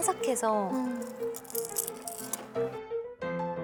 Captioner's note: Crunch